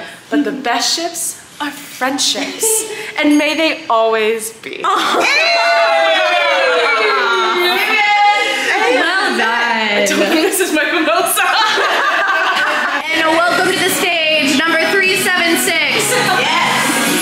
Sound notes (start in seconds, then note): 4.9 all cheer; 11.1 all laugh